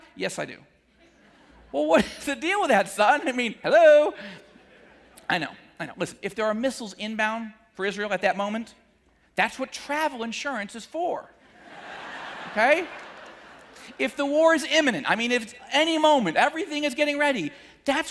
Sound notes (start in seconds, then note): 11.5 audience laughing